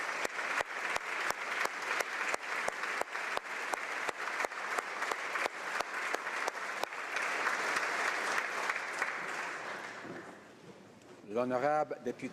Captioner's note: applause